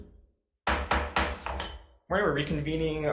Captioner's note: gavel banging